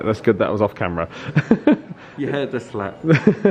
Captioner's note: laughing